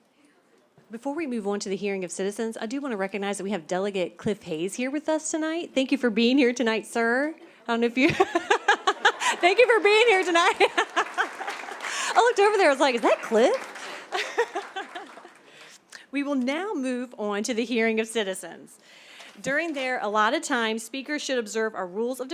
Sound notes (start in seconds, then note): 8.0 laughter; 10.9 laughter and applause; 13.7 laughter